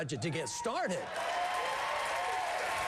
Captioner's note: applause